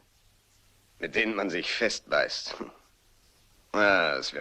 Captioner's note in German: lacht leise